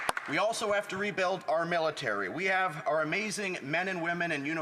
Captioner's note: some Applause